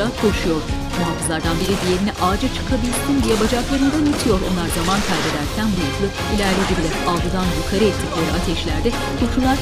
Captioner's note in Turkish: Müzik - Aksiyon; Silah sesleri